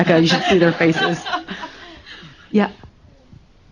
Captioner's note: laughter